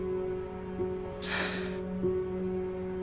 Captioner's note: sighs